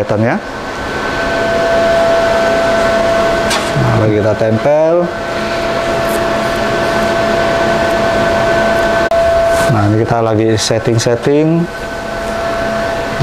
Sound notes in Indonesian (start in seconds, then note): 0.7 suara mesin; 3.4 suara selotip diambil; 5.8 suara mesin; 5.8 suara selotip